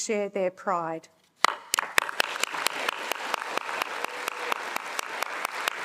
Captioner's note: attendees applauding